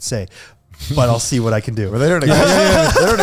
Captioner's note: laughing